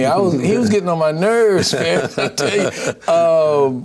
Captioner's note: laughs